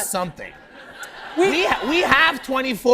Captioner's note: laughter